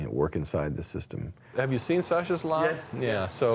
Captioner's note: voiceover